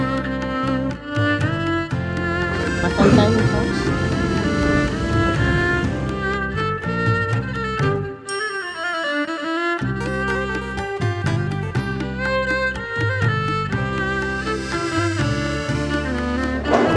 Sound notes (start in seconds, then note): 4.2 laugh; 4.7 background music